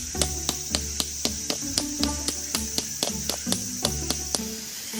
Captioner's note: stone hammering again